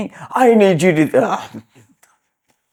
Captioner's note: laughs